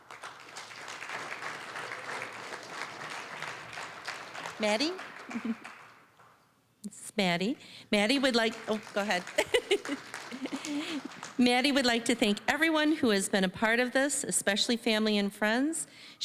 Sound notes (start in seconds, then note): 0.0 applause; 8.0 applause; 9.2 laughing; 10.9 applause